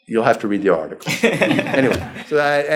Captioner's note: laughing